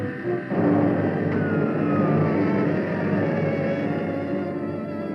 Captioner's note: machine shutting down